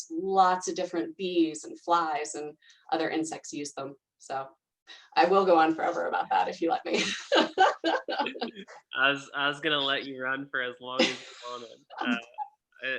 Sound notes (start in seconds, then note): 7.2 laughing